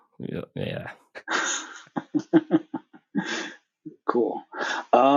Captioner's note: laugh